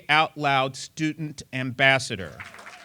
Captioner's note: applause